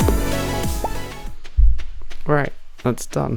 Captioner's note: hits mic on accident